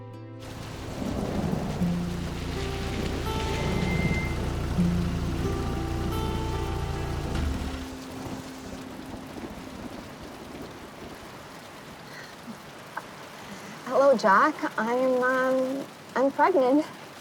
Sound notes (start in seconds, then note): 0.2 rain pattering; 2.9 thunder rumbling